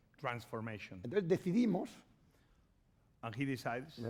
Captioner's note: speaking spanish